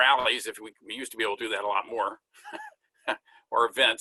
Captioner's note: chuckles